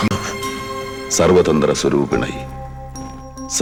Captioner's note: prayers in Sanskrit